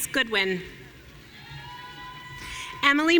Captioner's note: audience cheering